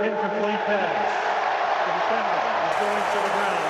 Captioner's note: cheering